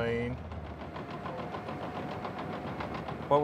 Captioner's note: tractor rumbling